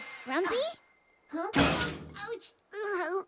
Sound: bangs head

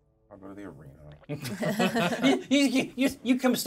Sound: laughs

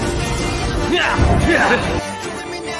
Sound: groaning, excuse me

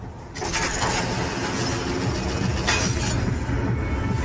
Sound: machine whirring

